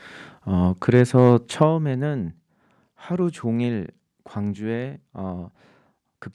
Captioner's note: speaking in Korean